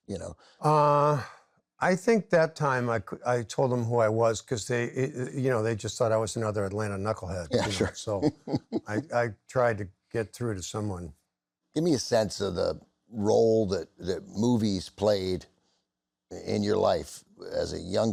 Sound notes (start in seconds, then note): 7.5 chuckles